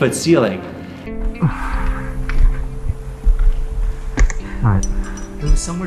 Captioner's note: chuckles; breaths hard; sighs